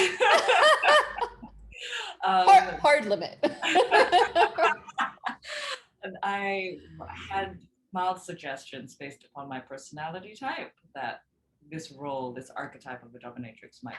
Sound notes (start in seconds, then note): 0.0 both chuckles; 3.6 both chuckles